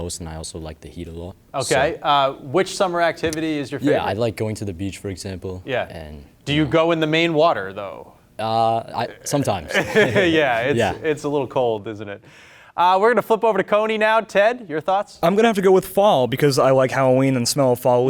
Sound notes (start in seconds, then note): 9.6 chuckles